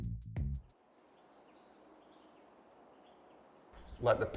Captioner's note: birds chirping